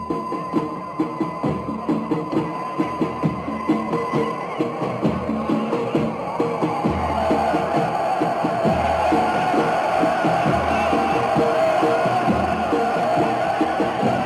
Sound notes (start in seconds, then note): 1.5 lively music; 7.0 crowd shouting